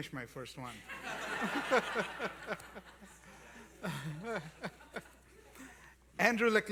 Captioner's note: laughter